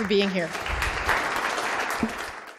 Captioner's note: audience applauding